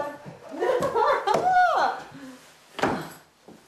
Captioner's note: laughing